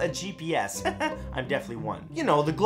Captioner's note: chuckles